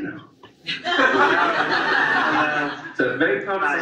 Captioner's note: audience laughs